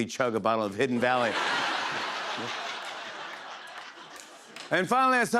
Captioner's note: laughter